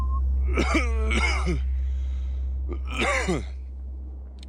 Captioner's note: coughing